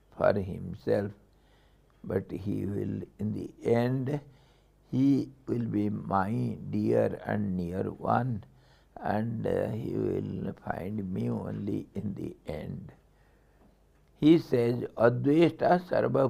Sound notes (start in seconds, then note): 12.2 sanskrit